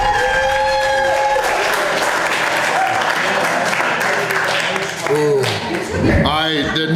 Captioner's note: crowd cheering and applause